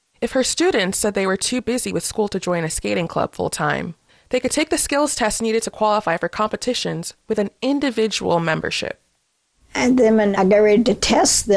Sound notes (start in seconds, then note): 8.8 soundbite of archived recording